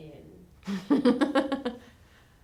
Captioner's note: laugher